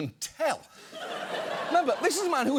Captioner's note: audience laughs